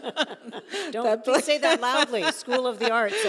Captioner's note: both laughing